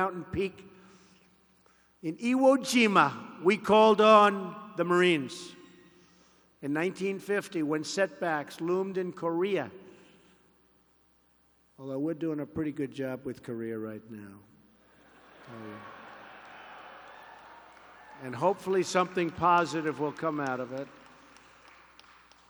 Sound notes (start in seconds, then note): 15.4 applause